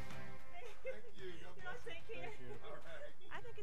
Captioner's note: laughing